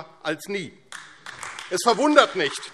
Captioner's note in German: Beifall AfD